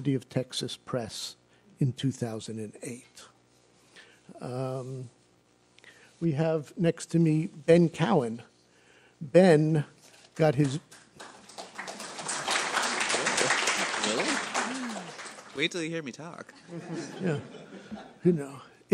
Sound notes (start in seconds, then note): 10.4 applause; 16.5 laughing